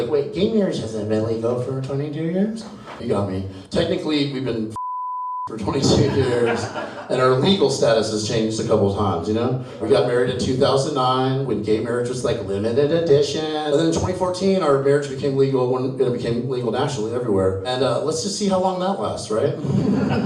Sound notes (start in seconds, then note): 4.7 beep; 19.6 audience chuckles